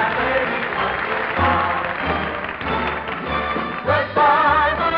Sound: audience applauding

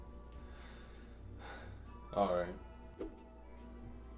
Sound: sighs

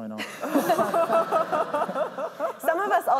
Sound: laughter

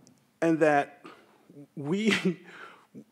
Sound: chuckles

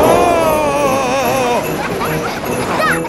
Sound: screaming; children laughing

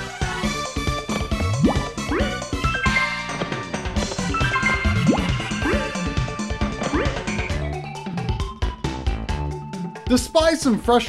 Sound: game audio

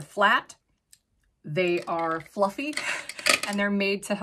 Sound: makeup brushes clanking; chuckles

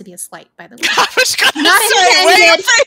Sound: all laughing

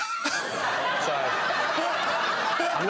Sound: laughter

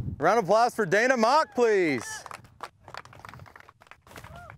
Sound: applause

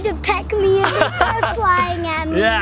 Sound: laughs

